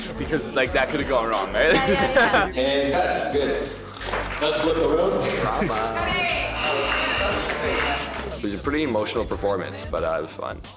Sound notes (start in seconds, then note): 1.6 laughs; 1.6 Giuseppe laughs